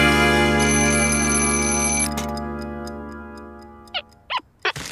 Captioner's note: ticking; alarm ringing